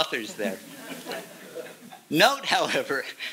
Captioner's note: chuckling